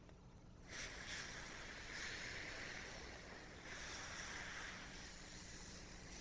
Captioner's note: air whooshing